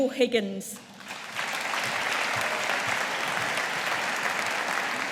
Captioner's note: audience applauding